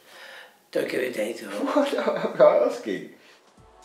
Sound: laughs

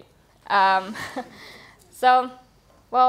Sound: laughter

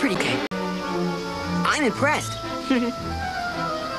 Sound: giggle

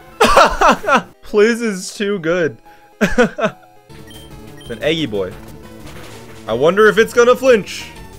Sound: laughs

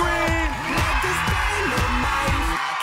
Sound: cheering

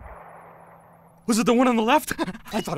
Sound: panting

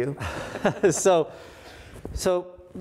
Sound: both laughing

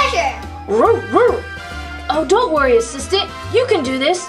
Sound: barks

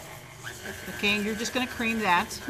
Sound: mixer whirs

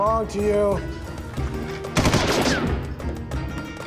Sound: guns blasting

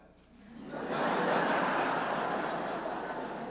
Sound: laughter

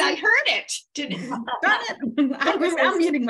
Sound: laughing

